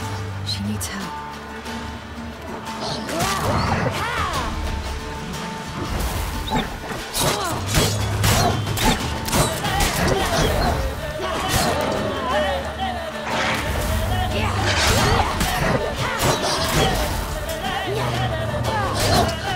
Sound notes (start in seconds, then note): 2.6 wolves growling; 11.6 wolf whines; 14.4 wolf snarls